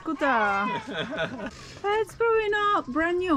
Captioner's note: laughs